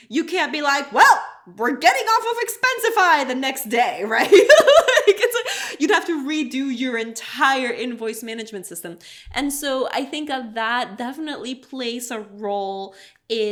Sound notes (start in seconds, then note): 4.2 laughs